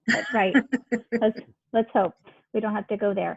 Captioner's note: laughing